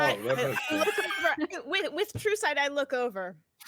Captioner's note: actors laughing